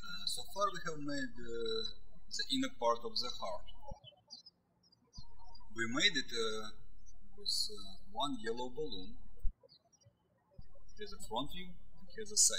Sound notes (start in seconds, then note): 4.6 birds chirping; 9.9 birds chirping